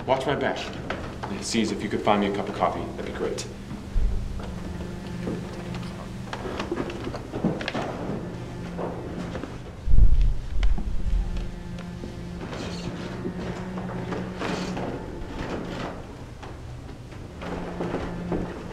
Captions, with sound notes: - Watch my back. And, Ciez, if you could find me a cup of coffee, that'd be great. (tense music) (floorboards creaking)